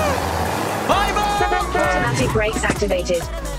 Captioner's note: engine revving; car; car honking